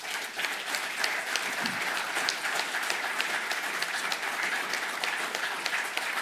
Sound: applause

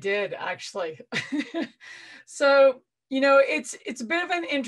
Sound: laughing

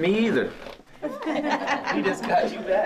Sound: laughter at once

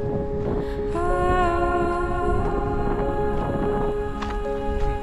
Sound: footsteps crunching

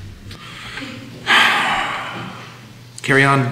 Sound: Judge Kelly sighs

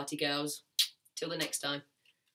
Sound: smooches

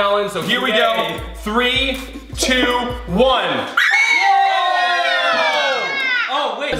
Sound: group screams

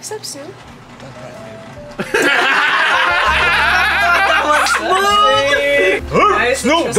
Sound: laughing

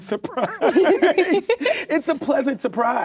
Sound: both laugh

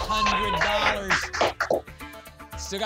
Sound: applause and cheering

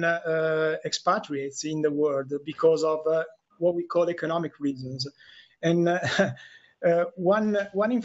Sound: laughter

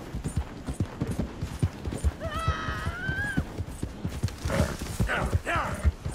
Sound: A woman is heard screaming from the shore

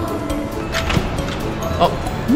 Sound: sound of door opening

